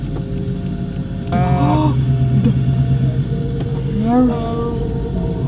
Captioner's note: gasps